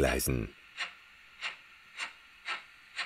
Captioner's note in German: Tschack-tschack-tschack